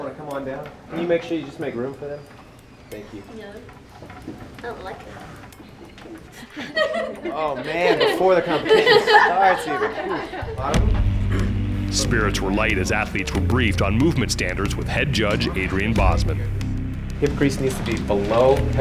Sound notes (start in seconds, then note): 5.4 laughing